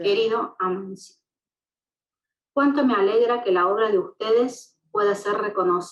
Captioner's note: speaking in foreign language